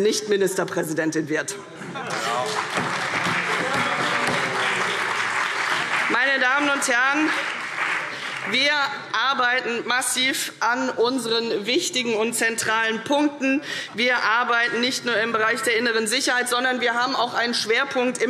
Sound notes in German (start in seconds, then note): 2.0 Beifall CDU und BÜNDNIS 90/DIE GRÜNEN